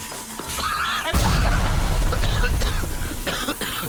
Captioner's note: hissing steam; loud explosion; Fillus coughing